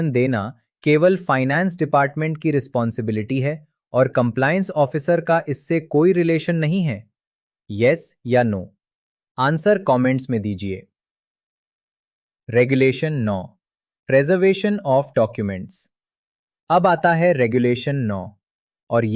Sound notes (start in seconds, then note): 11.1 pause